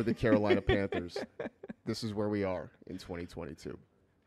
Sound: laughs

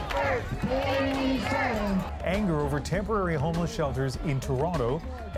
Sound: chanting

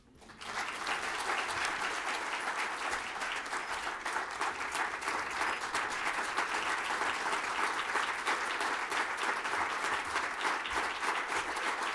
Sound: applause

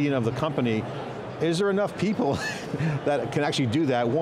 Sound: laughs

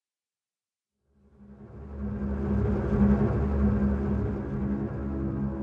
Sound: none

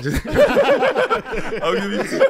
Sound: group laughs

